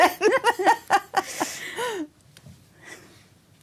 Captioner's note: laughter